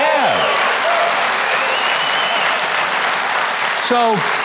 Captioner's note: audience cheers and claps